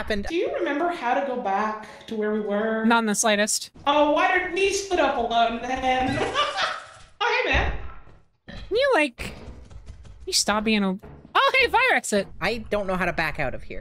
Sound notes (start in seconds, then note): 6.0 laughs; 6.1 Spore Lizard rattles